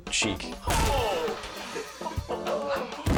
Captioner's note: honeydew smacks; thuds